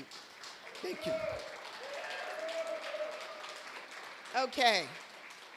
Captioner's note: applause